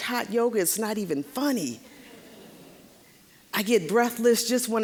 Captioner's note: audience chuckling